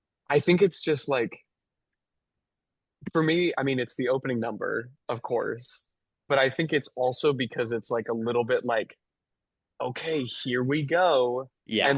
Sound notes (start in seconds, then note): none